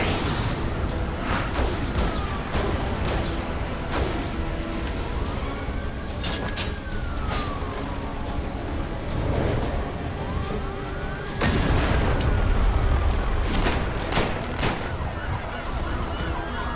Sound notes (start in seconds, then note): 0.0 jet fly; 2.8 dramatic music; 8.1 helicopter sputtering; 11.4 explosion blasting; 13.2 gun banging